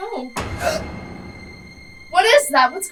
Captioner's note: distant thud; Kathryn gasps